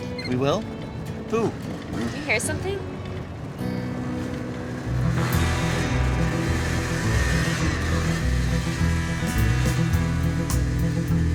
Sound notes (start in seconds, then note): 3.7 bikes whirring; 3.7 bright music